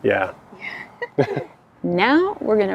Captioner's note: laughing